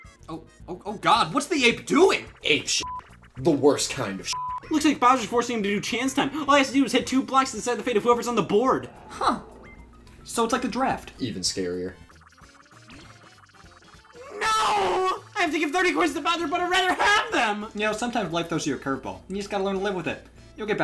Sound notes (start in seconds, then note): 2.8 beeps